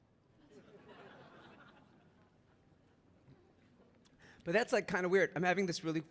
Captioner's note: audience laughing